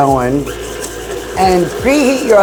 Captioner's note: mixer whirring